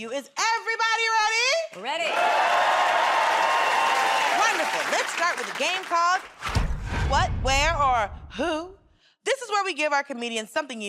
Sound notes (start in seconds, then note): 1.9 cheers and applause